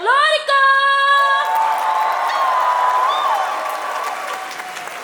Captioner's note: cheering; applause